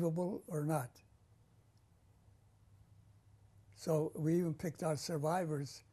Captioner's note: pauses for 3 seconds